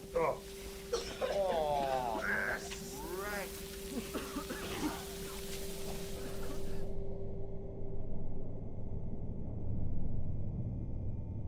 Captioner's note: coughing